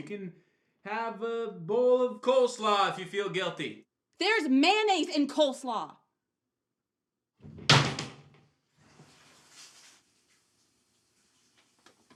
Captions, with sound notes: You can have a bowl of coleslaw if you feel guilty. - There's mayonnaise in coleslaw! (shower door thuds) (water splashing)